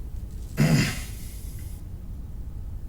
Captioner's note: grunts